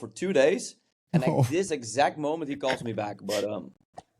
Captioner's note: chuckles